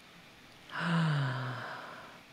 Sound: sighing

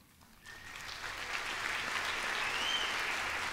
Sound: applause

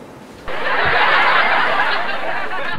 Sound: laughing

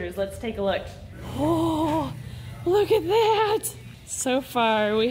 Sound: gasps

